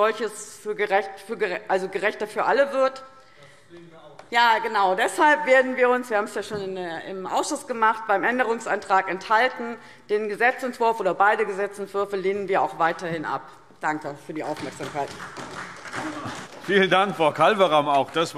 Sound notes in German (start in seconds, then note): 14.4 Beifall SPD